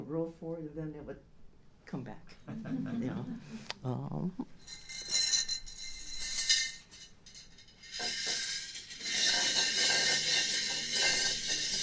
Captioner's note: laughter